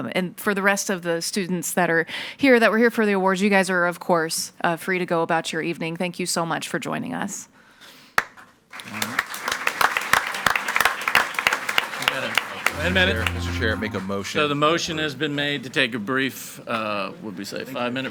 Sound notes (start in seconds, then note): 8.7 people clapping